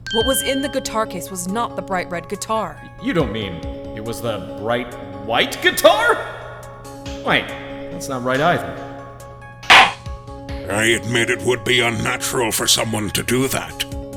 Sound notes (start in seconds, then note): 9.7 gavel slams!